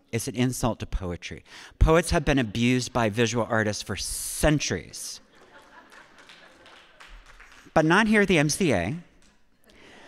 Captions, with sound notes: It's an insult to poetry. Poets have been abused by visual artists for centuries." (audience laughing) (audience applauding) But not here the MCA